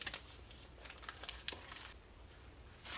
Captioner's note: crinkling continues